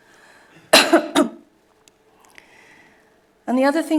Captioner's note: coughing